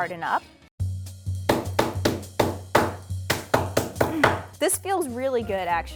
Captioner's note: upbeat music; pin pounding